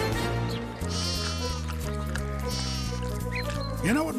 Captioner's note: sheep bleating